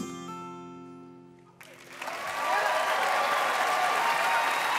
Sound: cheers and applause

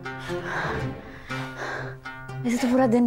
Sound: Sakshi heavy breathing

